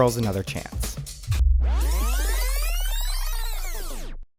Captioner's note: tape rewinding